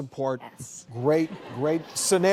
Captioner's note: audience laghing